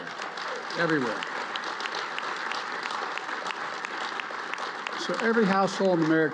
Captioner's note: applause